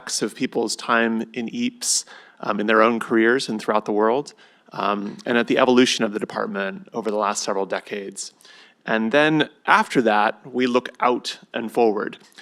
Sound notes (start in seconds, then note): none